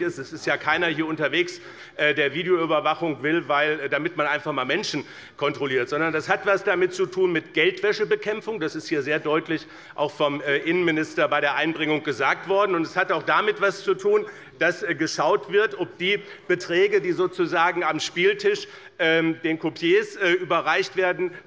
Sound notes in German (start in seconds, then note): none